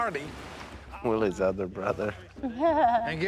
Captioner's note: Korie laughs